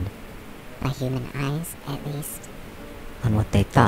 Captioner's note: small buzzing voice